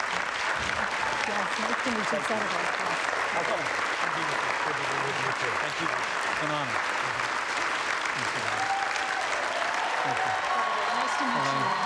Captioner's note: applause